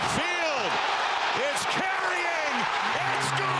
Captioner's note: applause